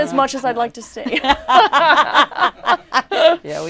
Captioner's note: laughter